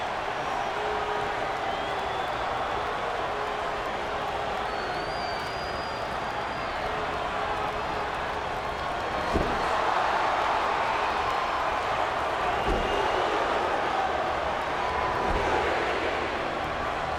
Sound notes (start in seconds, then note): 0.0 crowd clamoring continues; 9.1 canvas thumping; 10.4 crowd cheering